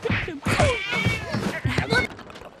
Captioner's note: both grunting; blows landing; cat yowls